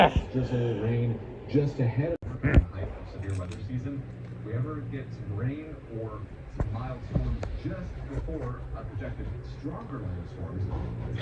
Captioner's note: Caprice continues growling